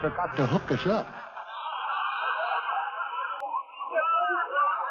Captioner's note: laughter